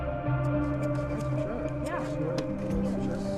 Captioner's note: light chatter